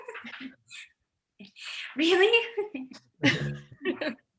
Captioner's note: laughs; laughs